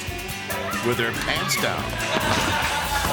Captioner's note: student screams; students laughing